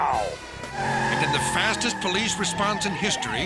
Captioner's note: tires screech